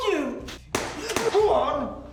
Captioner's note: gun shots